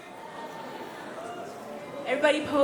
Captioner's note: audience murmurs